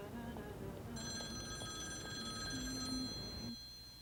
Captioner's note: phone ringing